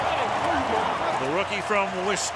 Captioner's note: onfield chatter